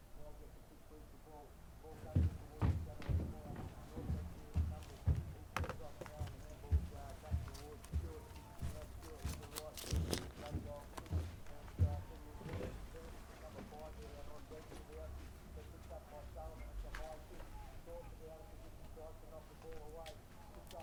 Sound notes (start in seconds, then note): 4.3 tv sounds